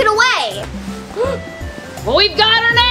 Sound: Woody gasps

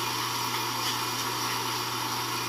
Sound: vacuum

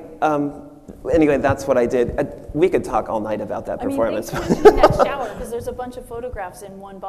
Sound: machine laughs

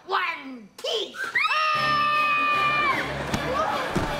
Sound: screaming

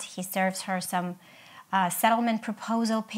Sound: none

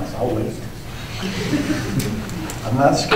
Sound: laughter

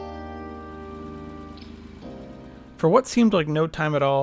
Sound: car engine roaring

